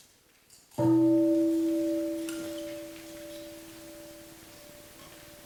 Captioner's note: bell rings